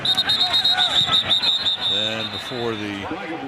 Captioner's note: whistle